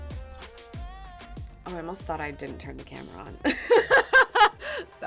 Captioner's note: laughs